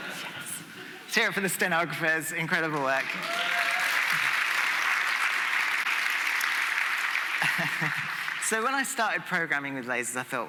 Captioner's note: applause